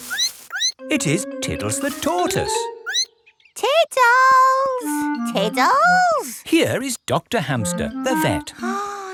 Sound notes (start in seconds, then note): 0.0 squeaks; 2.8 squeaks